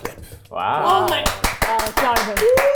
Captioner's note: claps